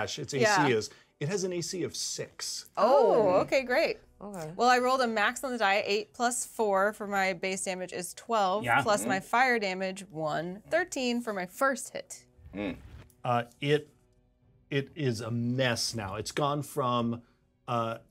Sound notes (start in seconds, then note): none